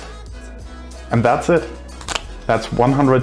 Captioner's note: pointer clicking